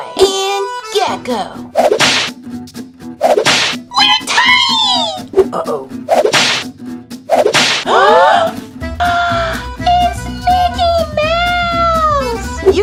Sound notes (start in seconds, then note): 9.0 gasp; 9.6 gasps